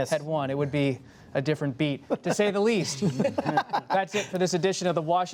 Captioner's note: laughter